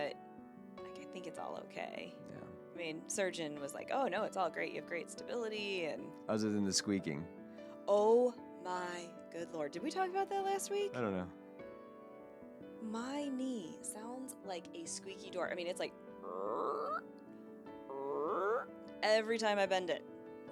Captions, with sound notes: but I think it's all okay. I mean, surgeon was like, oh no, it's all great. You have great stability and-- Other than the squeaking. Oh my good Lord. Did we talk about that last week? I don't know. My knee sounds like a squeaky door. I mean, it's like, (imitates squeaking) every time I bend it.